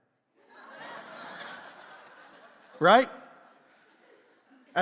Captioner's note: congregation laughs